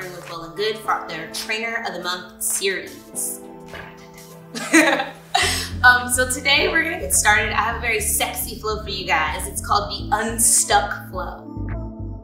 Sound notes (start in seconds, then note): 4.6 laughing; 12.0 upbeat music